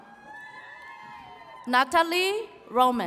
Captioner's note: attendees cheering